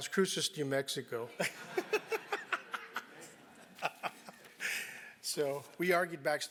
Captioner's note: laugh